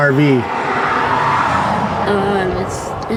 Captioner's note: cars whoosh